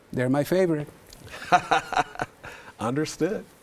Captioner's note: laughs